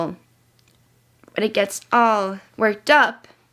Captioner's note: none